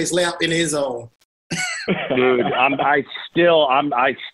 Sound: laughter

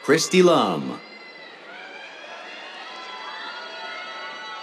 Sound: cheers

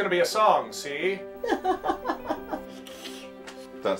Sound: woman laughs

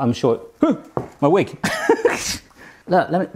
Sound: laughs

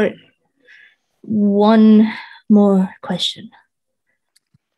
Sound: exhales

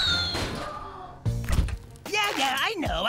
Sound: gut wrenching scream; metallic thunk

